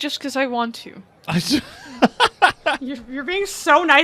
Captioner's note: laughs